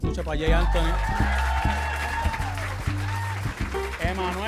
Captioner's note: applause and cheering